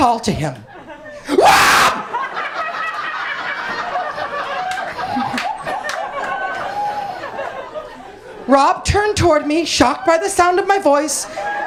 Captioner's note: screaming